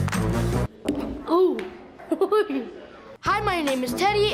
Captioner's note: laughs